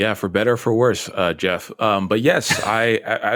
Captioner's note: laughter